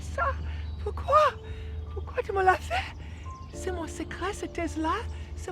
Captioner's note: Pauline speaking in French